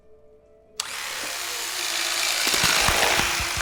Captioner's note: knife whirring on; flesh tearing